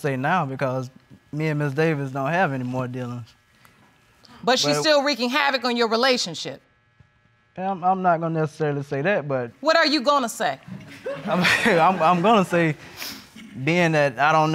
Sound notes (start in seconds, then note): 10.7 audience chuckles; 10.7 chuckling